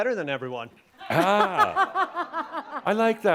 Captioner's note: laughter